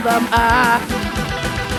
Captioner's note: maniacal Laughter